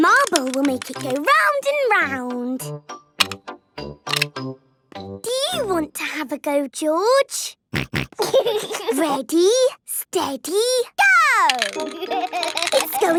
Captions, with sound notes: The marble will make it go round and round. Do you want to have a go, George? (snorting and giggling) Ready, steady... - Go! (laughing)